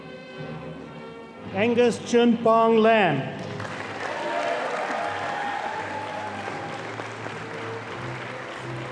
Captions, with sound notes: - Angus Gunpar Lam. (audience applauding)